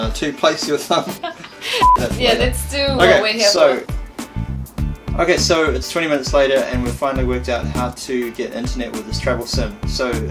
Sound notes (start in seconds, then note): 0.9 giggling